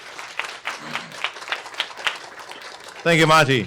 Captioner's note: applause